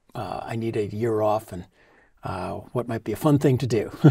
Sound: laugh

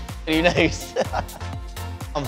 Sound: laughs

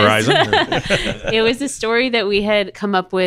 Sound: everyone laughing

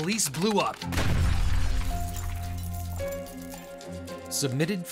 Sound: glass breaking

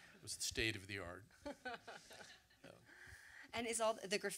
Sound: laughs

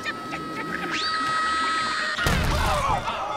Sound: laughing; screaming

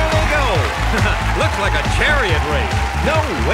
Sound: laughs

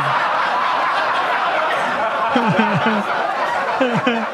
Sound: audience laughing; Gary laughing

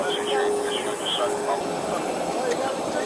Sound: radio chatter

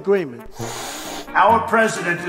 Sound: cat hissing

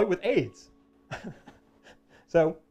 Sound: laughs

